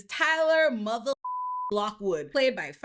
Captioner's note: beep